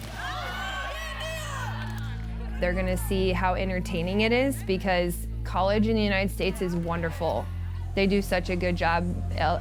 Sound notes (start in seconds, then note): 0.0 people cheering; 0.5 upbeat music